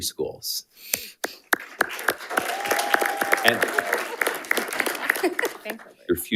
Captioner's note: panelists applauding